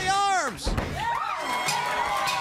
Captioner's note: crowd chatter